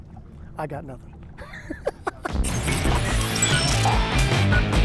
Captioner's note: laughing